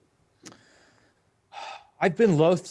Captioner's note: sighs